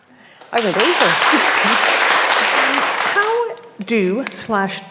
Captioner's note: audience clapping